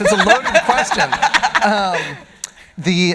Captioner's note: audience laughing